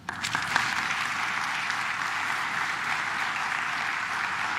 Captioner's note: claps